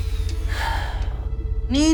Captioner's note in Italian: sospira